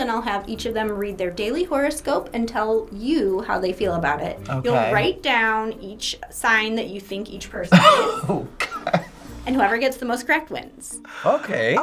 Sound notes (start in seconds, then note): 7.7 laughs